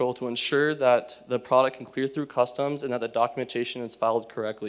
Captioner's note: none